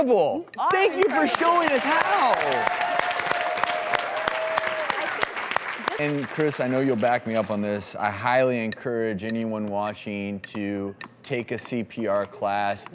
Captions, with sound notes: You are! Thank you for showing us how! (crowd cheers and claps) And Chris I know you'll back me up on this, I highly encourage anyone watching to take a CPR class